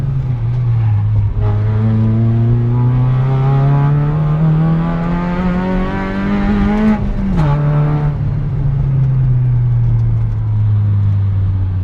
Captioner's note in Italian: rombo di motore